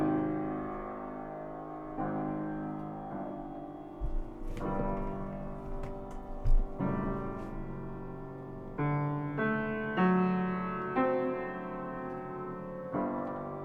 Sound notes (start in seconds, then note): none